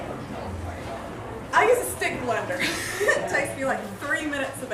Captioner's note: laughter